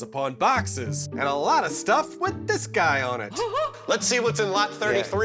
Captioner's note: laugh